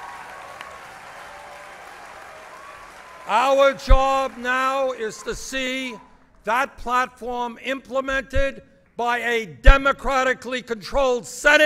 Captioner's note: applause